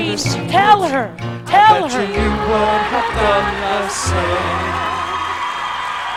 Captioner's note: audience laughs and claps; continued laughing